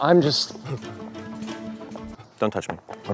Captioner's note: george, blustering with gentle comfort